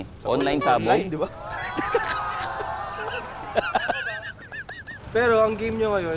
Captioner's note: boys laugh